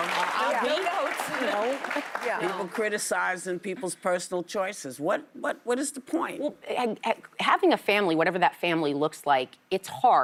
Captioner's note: applause